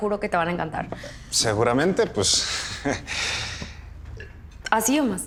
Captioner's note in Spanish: Ríe